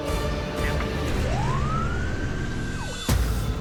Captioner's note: siren wailing